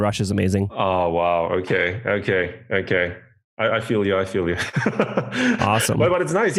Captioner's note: laughs